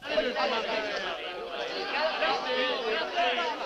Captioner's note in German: Geschwätz